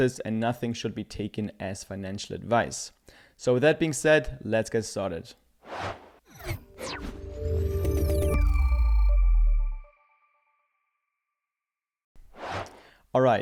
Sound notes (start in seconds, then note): 5.7 air whooshes; 8.0 chime rings; 12.3 air whooshes